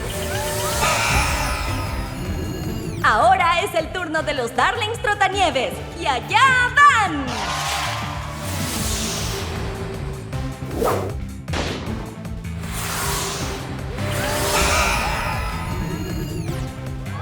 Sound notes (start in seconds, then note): 0.0 crowd cheering; 0.0 exciting music; 0.0 buzzer blares; 7.2 crowd cheering; 7.2 exciting music; 14.0 buzzer blares